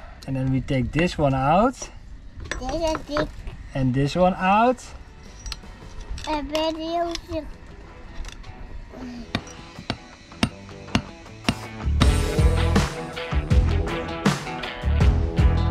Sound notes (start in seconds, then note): 9.3 hammering; 12.8 cool rock music